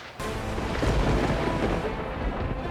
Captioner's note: thunder rumbling